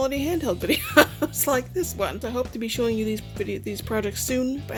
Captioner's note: laughing